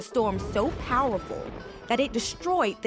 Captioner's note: lightning crashing